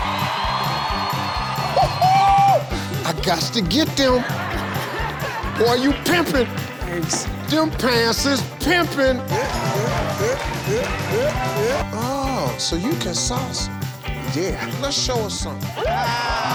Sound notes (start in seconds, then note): 1.9 everyone clapping rhythmically